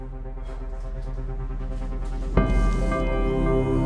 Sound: Flavio sighs; stern music

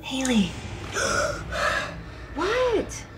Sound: Hayley gasping

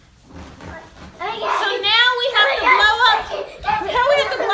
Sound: girls happily shouting

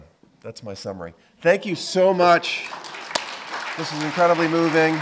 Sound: audience applauding

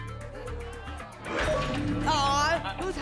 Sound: lock sound

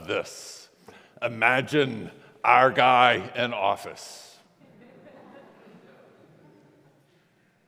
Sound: congregation laughs

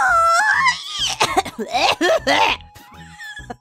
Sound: descends into coughing fit; laughs

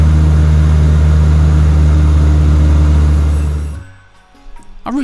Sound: engines roaring

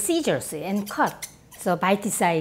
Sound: scissors snip rapidly

